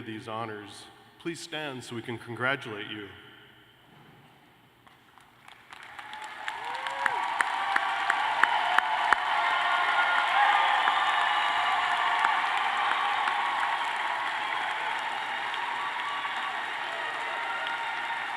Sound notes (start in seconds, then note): 5.4 cheers and applause